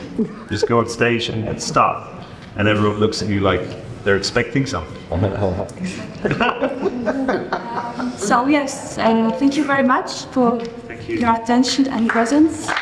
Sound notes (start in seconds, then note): 5.7 laughs